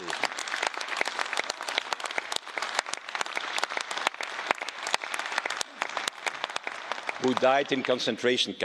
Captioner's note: clapping